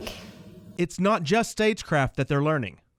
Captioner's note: voiceover